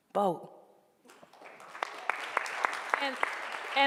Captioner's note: applause